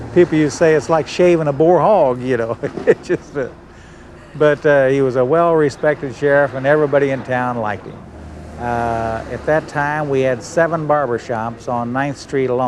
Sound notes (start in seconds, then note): 3.8 laughs